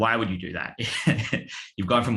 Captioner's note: laughs